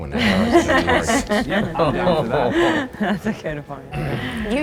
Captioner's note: group laughing